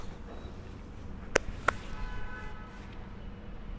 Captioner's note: clap